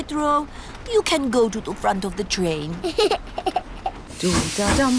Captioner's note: giggles